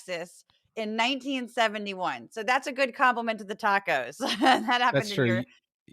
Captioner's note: laugh